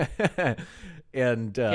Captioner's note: laughing